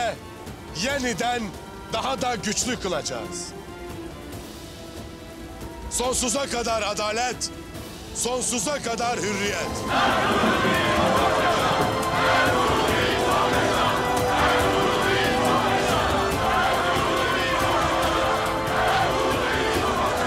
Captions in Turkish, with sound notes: ...yeniden daha da güçlü kılacağız. Sonsuza kadar adalet... ...sonsuza kadar hürriyet! (Tezahürat sesleri) (Hep bir ağızdan) Ertuğrul Bey'im çok yaşa! (Hep bir ağızdan) Ertuğrul Bey'im çok yaşa!